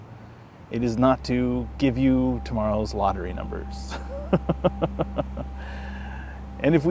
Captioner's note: laughs